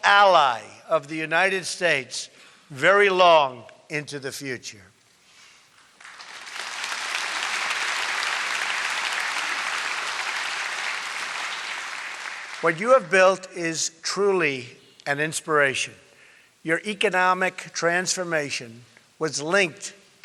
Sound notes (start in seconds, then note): 5.8 applause